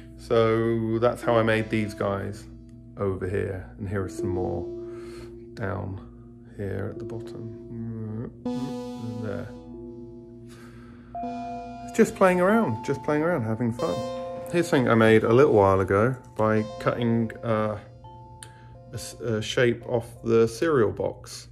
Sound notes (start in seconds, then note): none